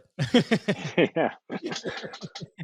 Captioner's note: laugh